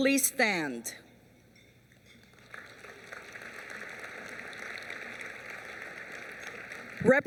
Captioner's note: applause